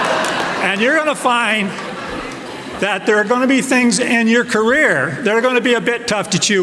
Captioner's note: laughter